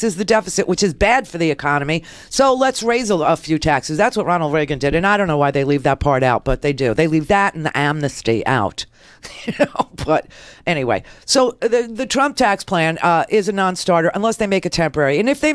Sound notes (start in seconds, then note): 9.3 laughs